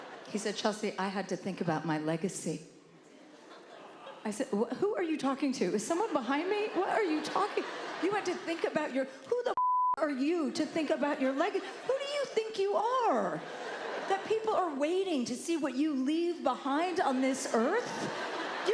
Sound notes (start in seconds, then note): 6.0 laughter; 13.3 laughter